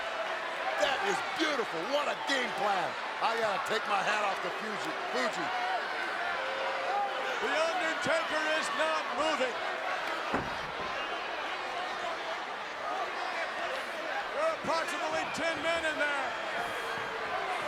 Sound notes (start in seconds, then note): 10.2 applause; 17.3 applause